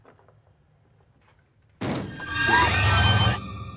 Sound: thump

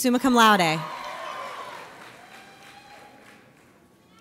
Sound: audience cheers

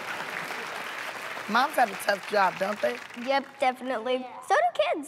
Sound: laughing; laughs; applause

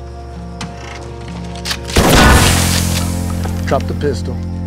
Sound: shotgun blast

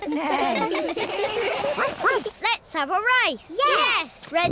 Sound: all laugh; barks

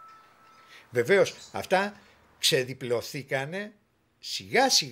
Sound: speaking in Greek

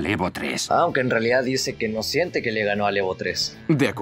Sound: In Japanese: "I don't feel I beat the Evo 3"

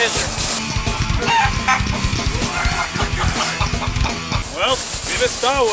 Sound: upbeat metal music; chicken clucking

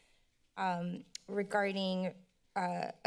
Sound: clicks tongue

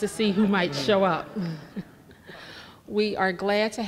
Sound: laughing

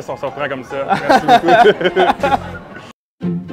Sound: laughs

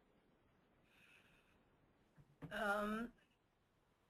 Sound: silence

